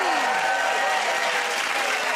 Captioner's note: cheers and applause